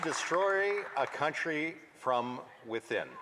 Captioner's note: speaking French